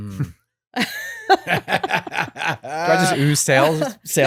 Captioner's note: both laughing